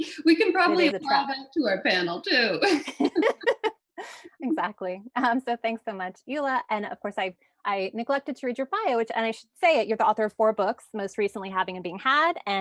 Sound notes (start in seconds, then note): 0.0 laughs; 2.6 laughing